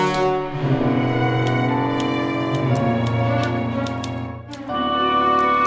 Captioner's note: typewriter clicking